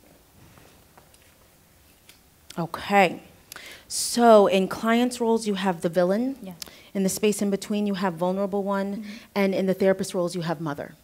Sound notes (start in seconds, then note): 0.0 shuffling, footsteps; 3.5 inhales